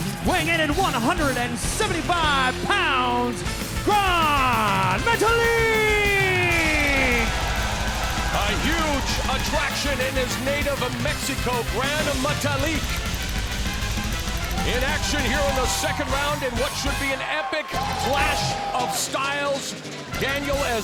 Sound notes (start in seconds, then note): 6.1 audience cheering